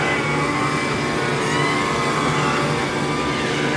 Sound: whirring

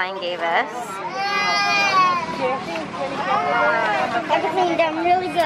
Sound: baby crying

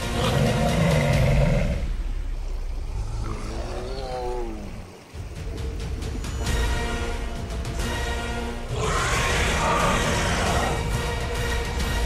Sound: metriacanthosaurus Sounds

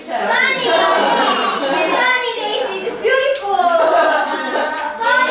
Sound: laughing and chattering

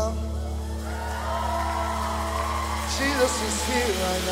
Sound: audience applauding

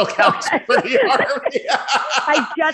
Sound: laughter

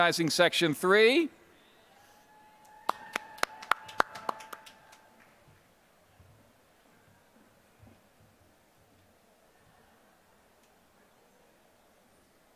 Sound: applause

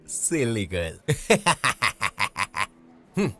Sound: laughs

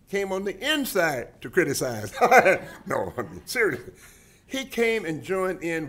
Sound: laughs

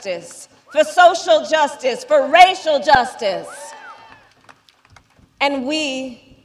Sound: applause

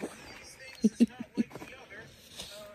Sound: giggles

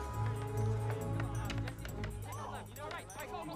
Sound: shouting

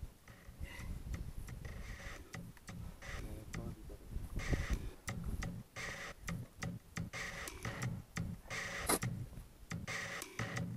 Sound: shoveling sounds continue

